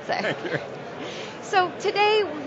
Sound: laughs

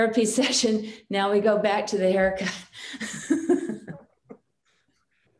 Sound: chuckles

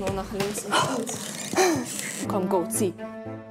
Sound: gasps

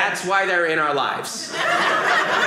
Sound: audience laughing

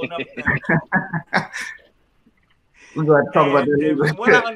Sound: all laughing

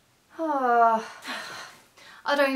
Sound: sighs

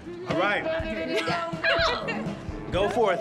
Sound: laughing

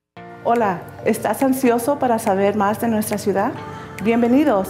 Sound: speaking Spanish

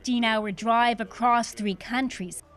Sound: speaking Foreign Language

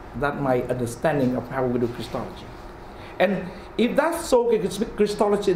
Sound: none

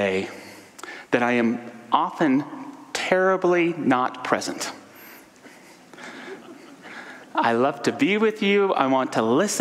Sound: audience soft laughter

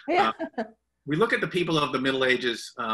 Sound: laughter

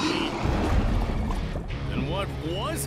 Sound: roaring and rumbling

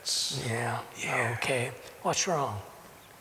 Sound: whispering

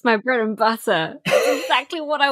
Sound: laughs

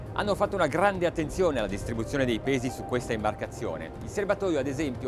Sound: speaking foreign language

